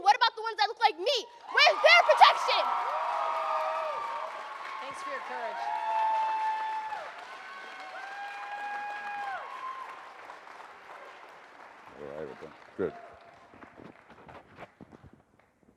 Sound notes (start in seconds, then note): 2.9 audience cheers and applauds